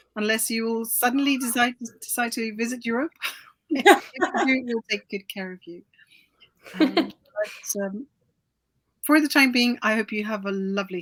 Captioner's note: laughs